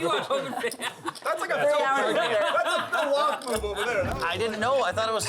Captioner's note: laughing